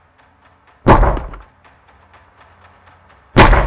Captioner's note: pounding on door; suspenseful music continues